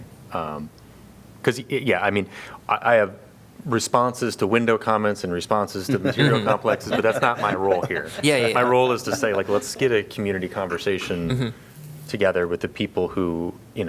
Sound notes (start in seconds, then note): 5.8 laughter